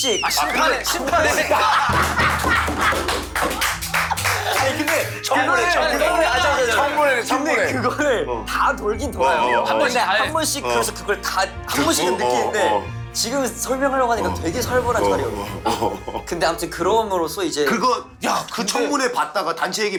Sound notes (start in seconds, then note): 9.5 excited